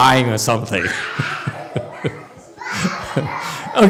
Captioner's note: laughs